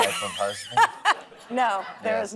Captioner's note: laughs